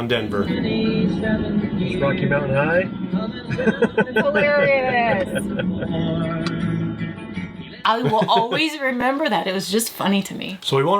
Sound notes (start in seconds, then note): 3.4 chuckles